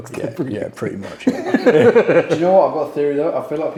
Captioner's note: laughs